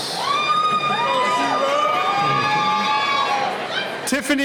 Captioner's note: cheering